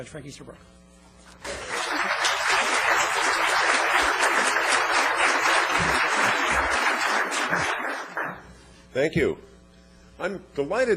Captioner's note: applause